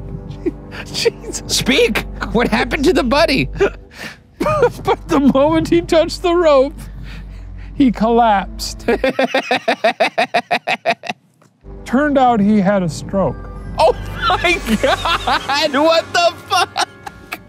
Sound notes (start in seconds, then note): 4.4 laughs; 8.7 laughing; 16.2 laughing